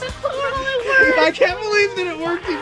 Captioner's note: laughing